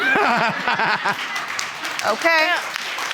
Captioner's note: crowd laughing